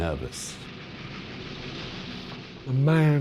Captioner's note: train rattling